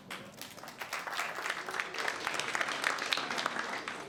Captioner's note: applause